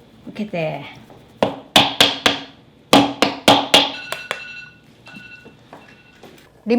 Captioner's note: alarm